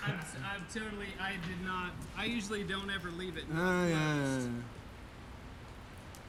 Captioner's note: rain